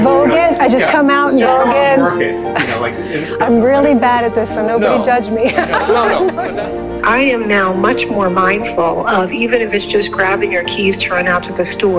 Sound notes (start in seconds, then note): 2.5 chuckles; 5.4 laughing